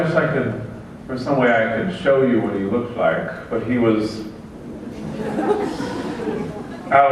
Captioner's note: laughter